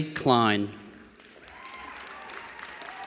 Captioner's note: applause